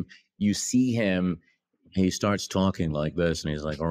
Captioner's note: imitating kubrick